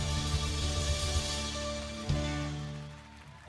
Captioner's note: applause and cheering